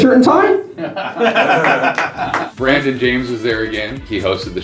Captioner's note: laughter